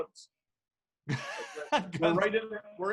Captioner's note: laughing